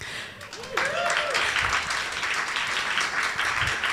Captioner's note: applause